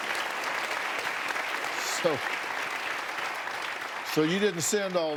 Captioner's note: applause